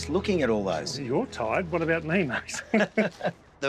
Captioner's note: both chuckle